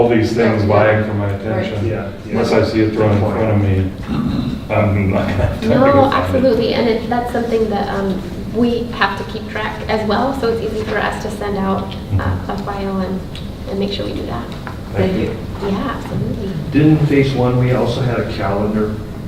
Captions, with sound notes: these things vying for my attention. Unless I see it right in front of me (rustling drowns out speaker). - No, absolutely and that's something that we have to keep track as well so it's easy for us to send out a file and make sure we do that. - Thank you. - Didn't in phase one we also had a calendar?